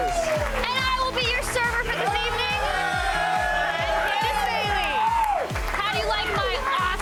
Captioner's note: applause